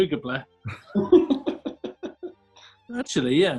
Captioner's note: chuckling